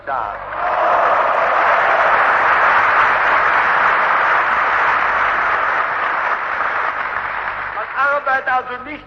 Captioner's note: applause